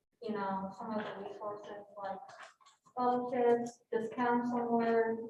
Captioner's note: speaks faintly